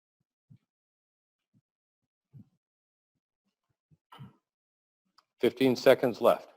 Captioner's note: pause